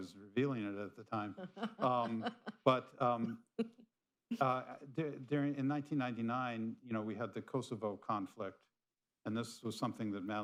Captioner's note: laughter